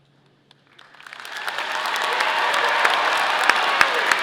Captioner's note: audience applauding